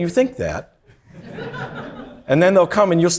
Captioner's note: audience laughing